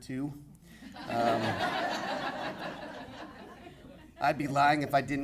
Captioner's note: audience laughing